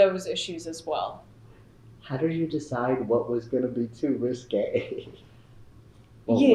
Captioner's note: laughs